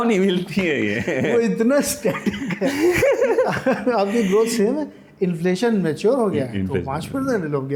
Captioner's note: laughter